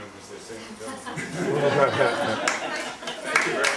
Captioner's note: laughter